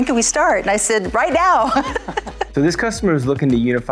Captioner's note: laughs